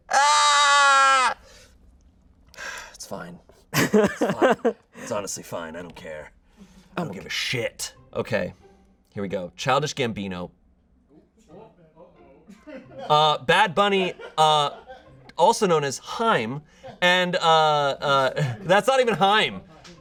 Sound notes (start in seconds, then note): 12.5 laughs